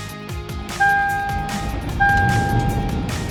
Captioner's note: car beeping